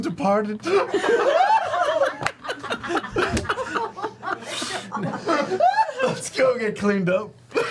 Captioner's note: laughter